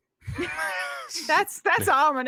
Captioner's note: laughs